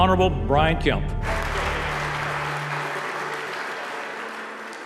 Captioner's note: crowd clapping